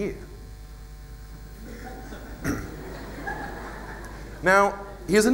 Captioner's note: laughter